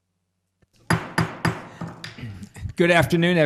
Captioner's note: gavel pounding